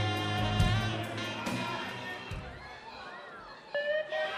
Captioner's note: crowd cheering